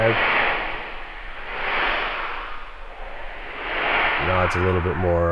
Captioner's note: ethereal air whooshing